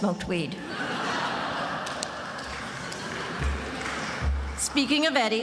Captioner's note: attendees laughing